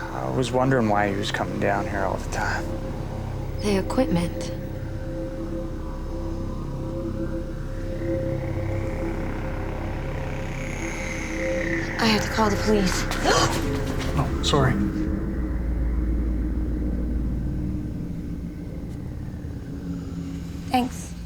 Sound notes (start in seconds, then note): 13.3 gasps